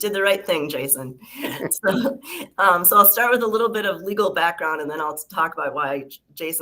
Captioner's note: laughter